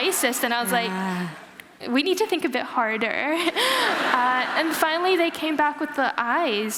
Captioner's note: laughter